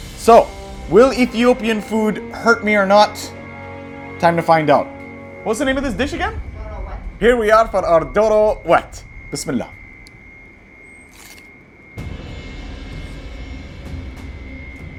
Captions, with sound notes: So, will Ethiopian food hurt me or not? (tense music) Time to find out. What's the name of this dish again? - Doro wet. - Here we are for our doro wet. (speaks Arabic) (dramatic music)